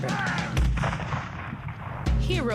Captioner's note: beating drums; boom